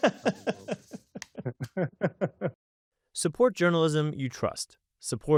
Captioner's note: laughter